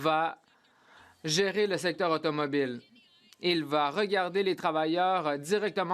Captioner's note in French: voix de l'interprète